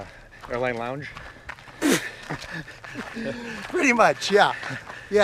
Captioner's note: laughs